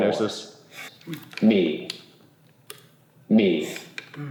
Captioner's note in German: Sprachgerät